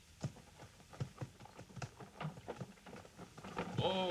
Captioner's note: hooves clopping